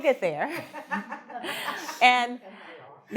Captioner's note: woman laughing